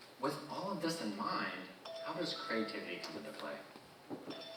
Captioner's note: notification chiming